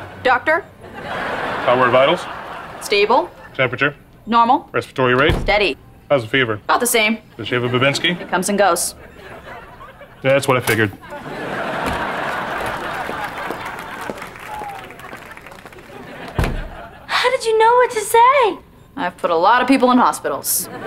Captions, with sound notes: Doctor. - How are her vitals? - Stable. - Temperature. - Normal. - Respiratory rate? - Steady. - How's the fever? - About the same. - Does she have a vivensky? - Comes and goes. That's what I figured. [laughing] [applause] - How did you know what to say? - I've put a lot of people in hospitals.